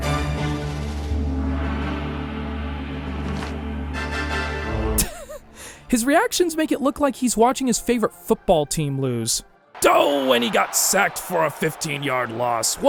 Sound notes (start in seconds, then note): 5.0 chuckles; 9.7 mimicking announcer